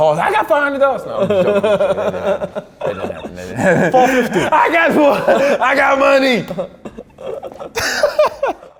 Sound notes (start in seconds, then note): 1.2 laughs; 6.6 both laugh